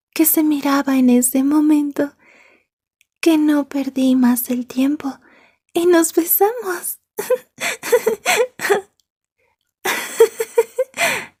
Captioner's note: laughs